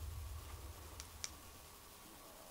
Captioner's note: clicking